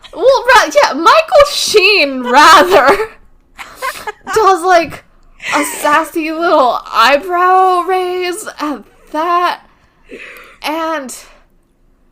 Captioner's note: laughs